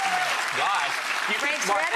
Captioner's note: clapping and cheering